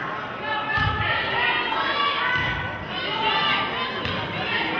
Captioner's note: players hollering